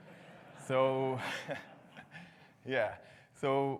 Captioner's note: audience laughs; laughs